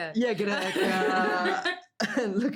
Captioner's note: laughing